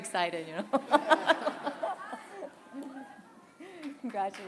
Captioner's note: laughter